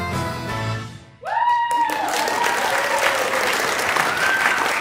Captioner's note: applause